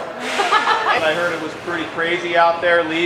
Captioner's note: laughter